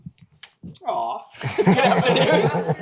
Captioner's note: laughter